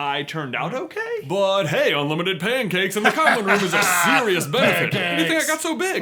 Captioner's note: laughing